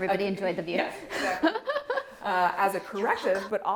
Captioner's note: both laughing